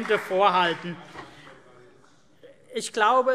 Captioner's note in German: Beifall CDU und BÜNDNIS 90/DIE GRÜNEN - Zurufe